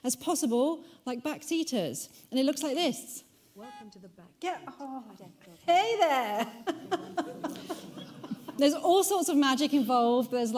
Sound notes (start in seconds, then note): 3.6 computer Voice; 6.0 laughs